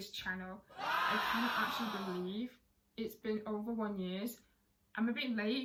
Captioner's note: cheering in the background